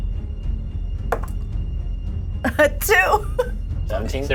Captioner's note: die thuds; chuckles